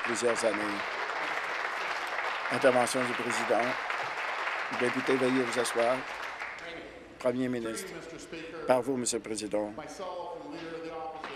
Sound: applause

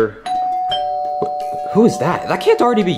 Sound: doorbell rings

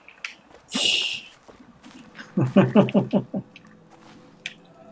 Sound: laughs

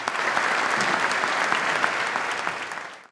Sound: applause

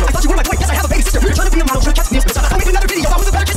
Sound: haha

